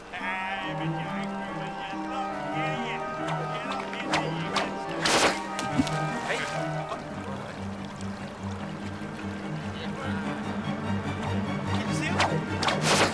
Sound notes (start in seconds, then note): 6.3 water splashes